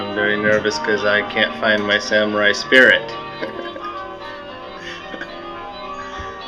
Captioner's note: chuckles